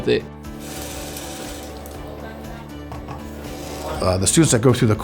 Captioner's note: robot whirring